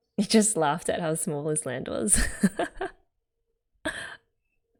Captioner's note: laughs